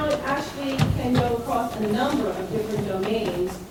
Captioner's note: none